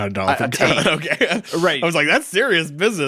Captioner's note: chuckles